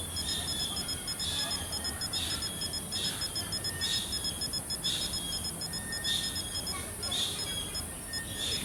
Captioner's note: birds chirping